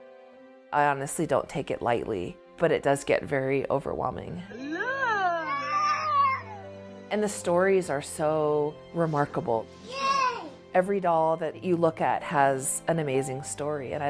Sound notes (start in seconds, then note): 4.5 little girl squeals with joy